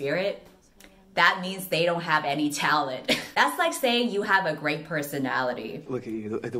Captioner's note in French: rigole